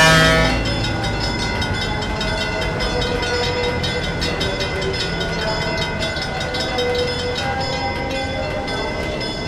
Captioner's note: F7A powering down, locomotive bell ringing; ringing stops